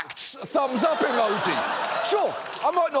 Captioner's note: audience laughs